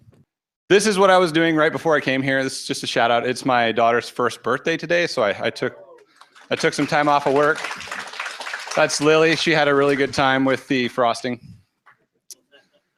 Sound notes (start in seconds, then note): 7.6 applause